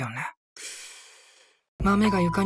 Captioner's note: sigh of contempt